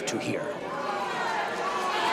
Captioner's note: audience jeering